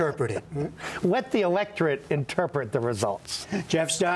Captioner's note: laughter